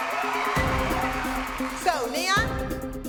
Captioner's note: cheering